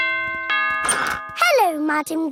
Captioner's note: doorbell rings